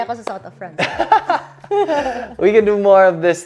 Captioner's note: laughs